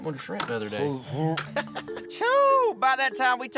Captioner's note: dry heaving; laughter